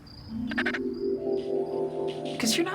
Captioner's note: squawks